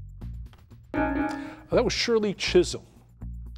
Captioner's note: bell dings